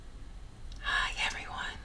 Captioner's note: whispering